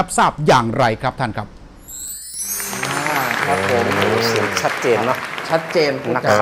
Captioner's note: clapping sound